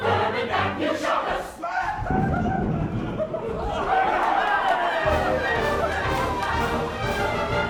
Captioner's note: Dick yells, chorus cheers